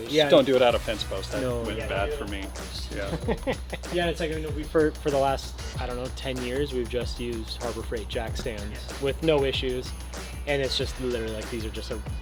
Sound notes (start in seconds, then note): 3.0 soft chuckling